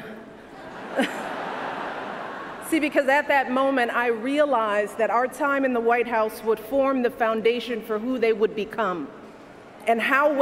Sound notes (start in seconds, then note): 0.4 laughter